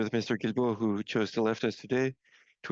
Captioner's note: speaking French